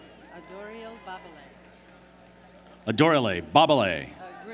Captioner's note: applause